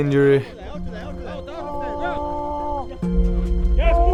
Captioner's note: indistinct chatter